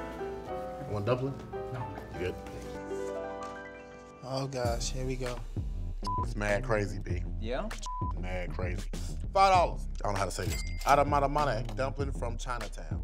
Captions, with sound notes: Want a dumpling? - Oh, gosh, here we go. - (beep) mad crazy, B. - Yeah? - (beep) mad crazy. $5, I don't know how to say this. Adamadamane dumpling from Chinatown.